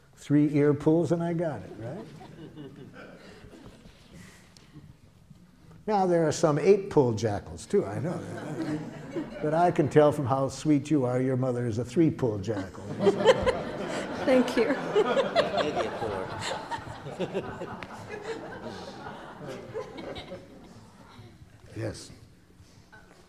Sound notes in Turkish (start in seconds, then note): 4.3 Gülüşmeler; 12.6 Gülüşmeler